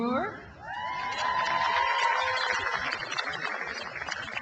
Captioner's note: crowd applauds